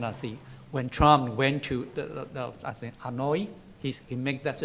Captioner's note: foreign language